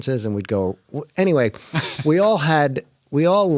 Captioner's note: laughter